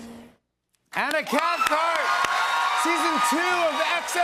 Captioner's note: cheers and applause